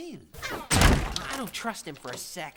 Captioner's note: door slams